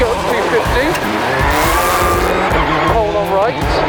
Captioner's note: engine revving